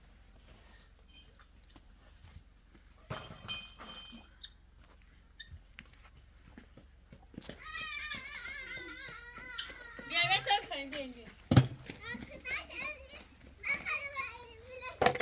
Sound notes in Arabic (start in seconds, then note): 7.5 صراخ; 7.5 بكاء